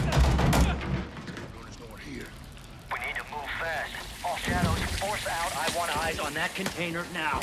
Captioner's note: gunshots